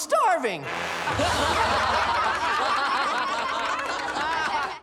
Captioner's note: laughter